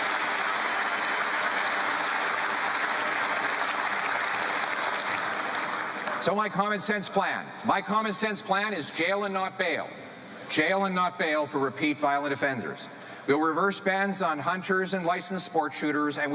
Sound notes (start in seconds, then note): 0.0 cheering